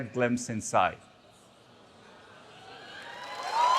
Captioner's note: applause